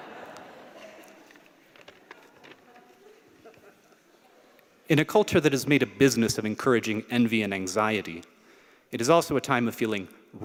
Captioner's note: laughter